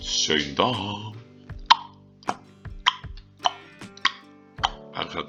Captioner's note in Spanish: Tic, tac, tic, tac